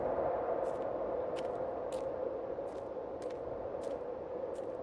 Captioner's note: wind howling continues; footsteps crunching continues